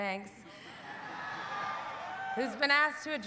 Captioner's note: audience cheering